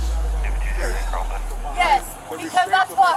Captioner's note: radio chatter